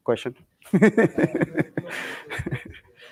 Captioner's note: laughter